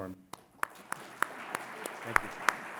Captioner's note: audience clapping